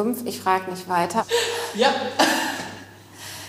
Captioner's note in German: lacht